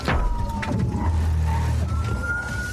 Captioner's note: thuds